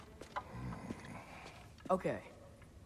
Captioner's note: grunt